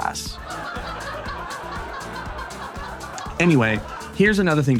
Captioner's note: audience laughing